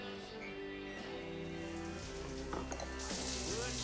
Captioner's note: water running